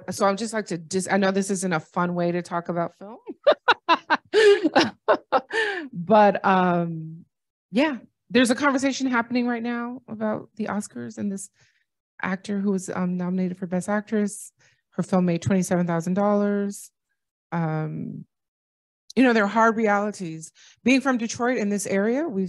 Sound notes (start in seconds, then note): 3.2 laughter